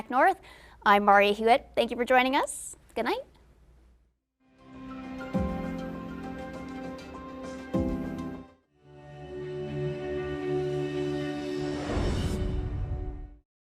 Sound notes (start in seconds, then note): 4.5 bright music; 8.6 bright ambient music; 11.6 screen whooshing